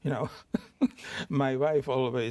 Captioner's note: chuckles